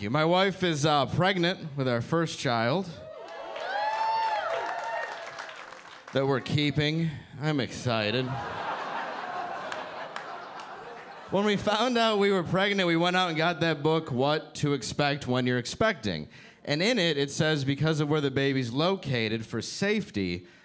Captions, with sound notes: My wife is pregnant with our first child. (audience applauding) They we're keeping, I'm excited. (audience laughing) When we found out we were pregnant, we went out and got that book, "What to expect when you're expecting" and in it it says, "Because of where the babies located for safety,"